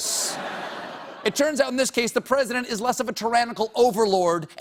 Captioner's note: laughter